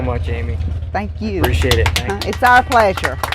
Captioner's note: applause